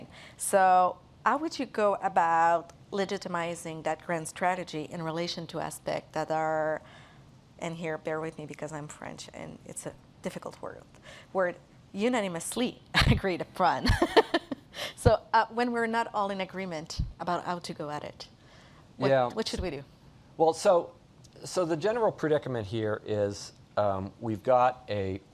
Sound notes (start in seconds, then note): 13.8 rires